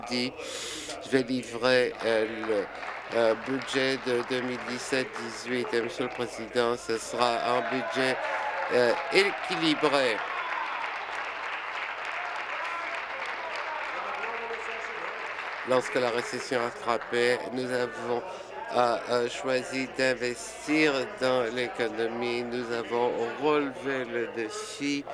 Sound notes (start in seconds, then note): 6.8 applause; 10.4 applause and cheering